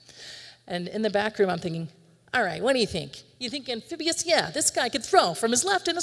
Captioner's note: in a faux northeaster accent